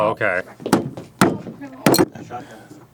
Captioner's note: banging